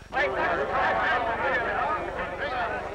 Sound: shouting

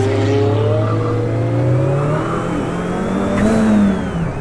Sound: car engine roars

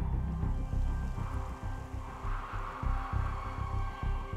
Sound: wind howls

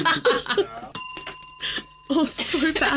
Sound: group laughing; bell dinging continues

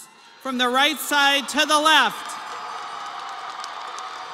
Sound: crowd cheering

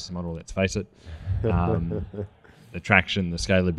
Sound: laughs

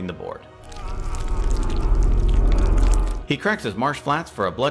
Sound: creature groans

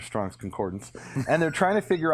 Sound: laughs

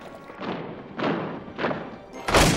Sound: heavy footsteps approaching

